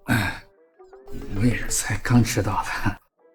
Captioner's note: cough